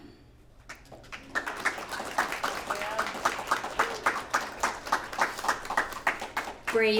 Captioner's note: applause